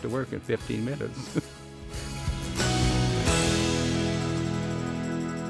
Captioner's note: laughing